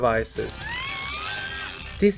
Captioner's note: woman screams from the nightmare device